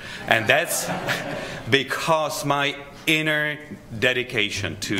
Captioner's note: laughter